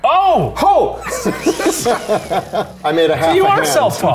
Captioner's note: laughing